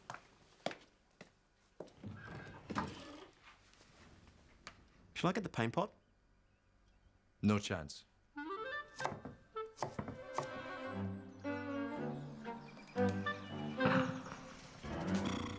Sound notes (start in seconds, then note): 0.2 door creaking; 8.3 playful music; 9.1 knife thudding